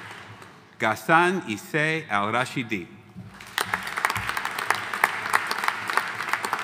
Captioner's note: audience applauding